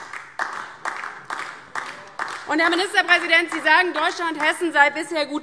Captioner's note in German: Beifall DIE LINKE